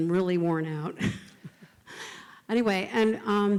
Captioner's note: laughs